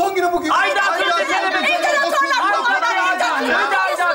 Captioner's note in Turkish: hepsi aynı anda bağırarak konuşur